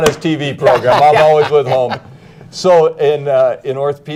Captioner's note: laughter